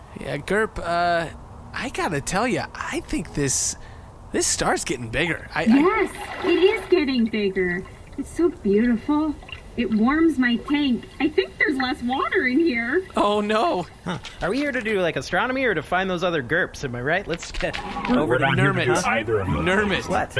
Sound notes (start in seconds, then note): 6.4 happily; 12.5 sound of steam rising